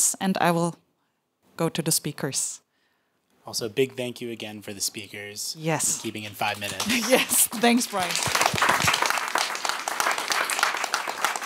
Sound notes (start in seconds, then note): 8.6 applause